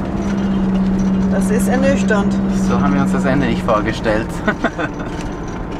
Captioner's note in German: Lachen